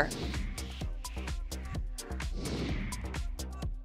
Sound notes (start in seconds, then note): 0.0 funky music; 2.3 wind whooshing